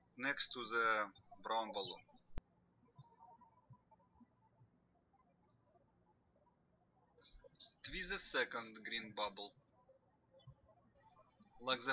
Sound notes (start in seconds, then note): 3.6 birds chirping